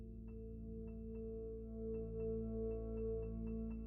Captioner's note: none